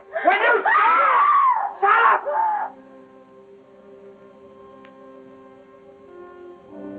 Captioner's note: screaming